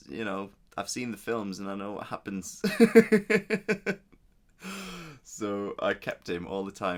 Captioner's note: laughs